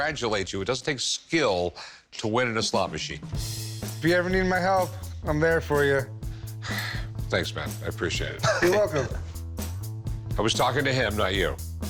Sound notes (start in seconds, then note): 6.6 sighs; 8.4 laughs